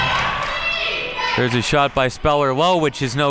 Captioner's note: claps